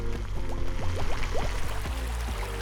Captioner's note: water running